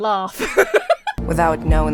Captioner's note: Emma laughs